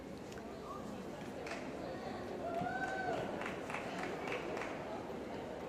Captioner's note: cheering & Applause